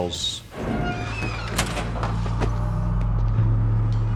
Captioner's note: door creaking